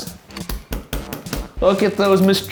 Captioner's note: pointer tapping